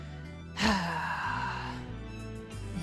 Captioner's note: sigh